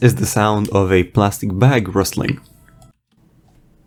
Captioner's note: plastic bag rustling